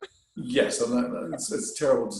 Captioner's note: chuckles